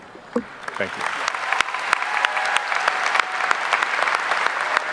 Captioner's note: audience applauding